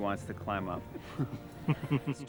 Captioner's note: chuckles